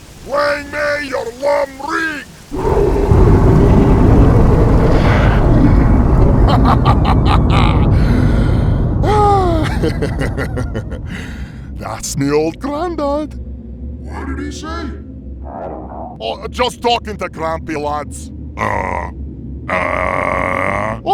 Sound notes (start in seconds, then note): 2.4 deep and loud thunderous bellowing roar; 6.2 laughs